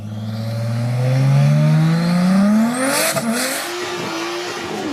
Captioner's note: engine revving